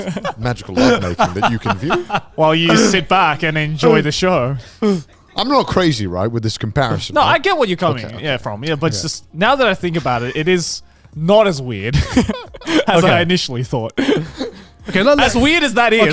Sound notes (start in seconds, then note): 2.0 laughs; 11.9 laughs